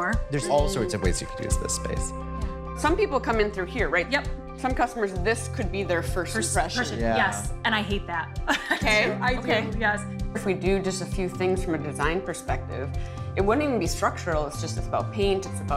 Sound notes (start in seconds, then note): 8.5 chuckling